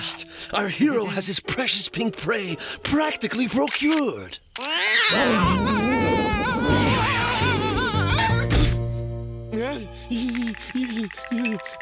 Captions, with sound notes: AT LAST, OUR HERO HAS HIS PRECIOUS PINK PREY PRACTICALLY PROCURED. (cat screeches) (screaming) (whimpering)